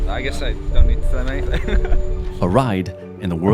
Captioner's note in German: Lachen